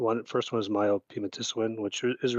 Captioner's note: speaks in Indigenous language